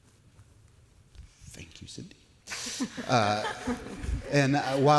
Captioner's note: light laughter from panelists